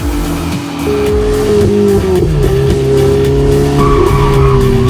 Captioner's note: upbeat music; engine whirring; tires screeching